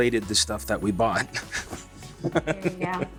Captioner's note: Dean laughs